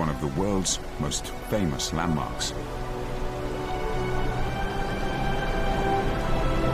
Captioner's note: uplifting music; water rushing